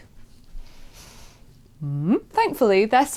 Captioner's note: quizical hmmmm noise